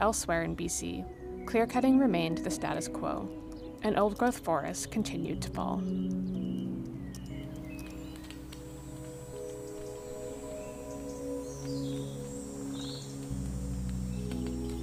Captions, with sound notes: But elsewhere in B.C. clear-cutting remained the status quo, and old growth forests continued to fall. [birds chirping] [insects buzzing]